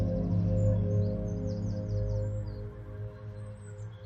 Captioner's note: soft hopeful music; birds chirping